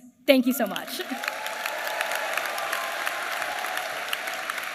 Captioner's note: applause